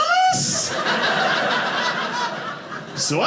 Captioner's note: audience laughing